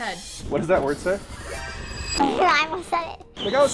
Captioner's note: tone chiming; raspberry blowing